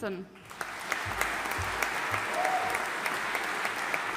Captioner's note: audience applauding